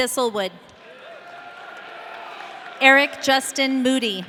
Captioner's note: audience cheering